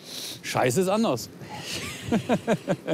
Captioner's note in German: Lachen